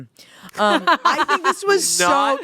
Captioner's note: laughing